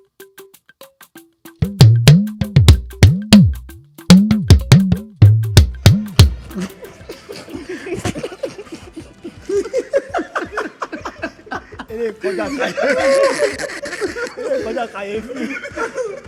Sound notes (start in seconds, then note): 1.6 drum beats; 6.7 everyone laughs